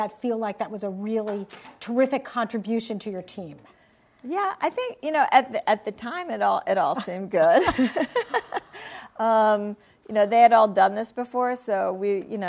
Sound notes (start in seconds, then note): 8.2 laughs